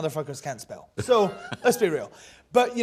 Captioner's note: laughs